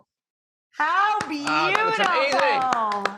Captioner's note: applauds